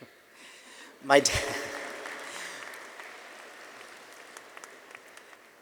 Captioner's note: audience applauding